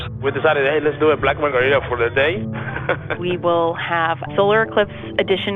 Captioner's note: laughs